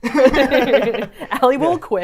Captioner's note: all laughing